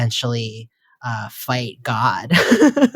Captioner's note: laughs